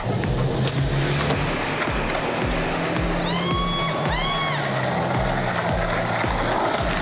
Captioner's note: yelling